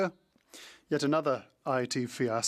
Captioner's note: speaking French